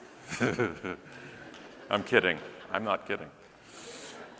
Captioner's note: audience laughing; laughing